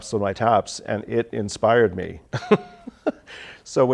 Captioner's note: chuckles